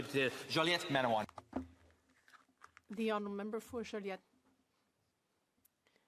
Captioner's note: speaking French